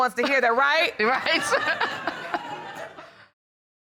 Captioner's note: all laughing